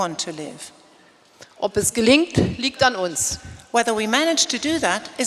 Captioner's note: speaking in German